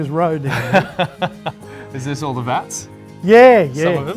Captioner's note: laughs